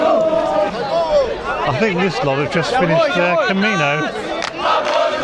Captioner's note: crowd chanting